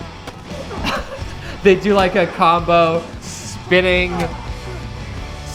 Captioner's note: laughs